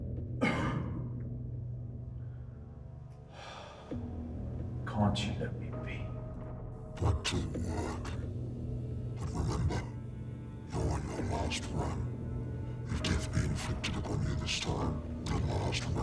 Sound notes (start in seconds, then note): 0.4 Van Helsing coughing; 3.3 Van Helsing sighing